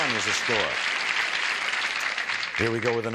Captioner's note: applause